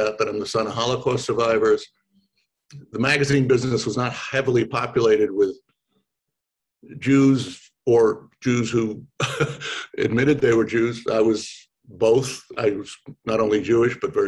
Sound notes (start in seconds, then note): 9.1 laughs